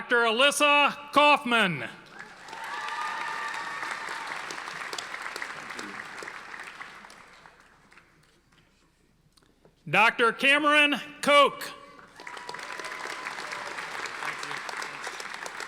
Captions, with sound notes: Dr. Alissa Kauffman. (audience applauding) Dr. Cameron Koch. (audience applauding)